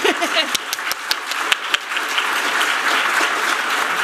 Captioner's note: applause